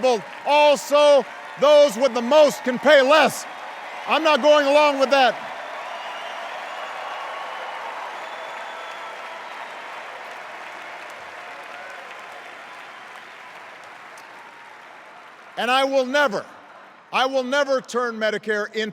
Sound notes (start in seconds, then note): 3.7 cheers and applause; 8.7 extended cheers and applause